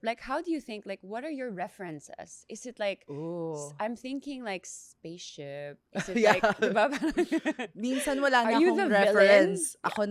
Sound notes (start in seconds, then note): 6.0 laughs